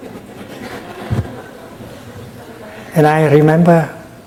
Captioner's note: audience laughing